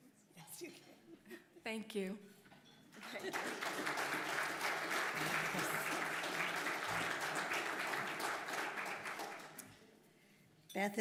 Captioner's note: applause